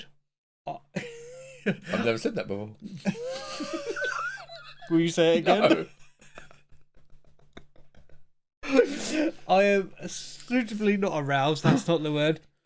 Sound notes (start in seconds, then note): 2.9 laughing